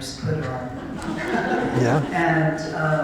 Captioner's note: laughter